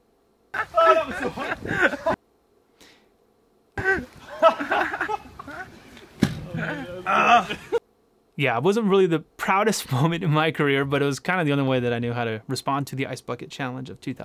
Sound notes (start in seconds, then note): 0.5 laugh